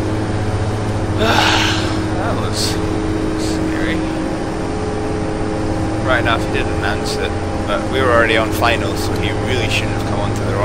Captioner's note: sigh